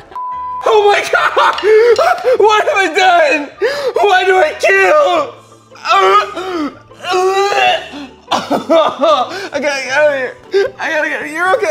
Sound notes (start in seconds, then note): 0.1 beep; 5.8 gags